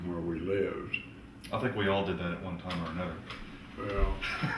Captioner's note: laughs